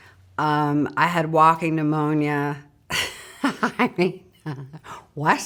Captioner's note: laughs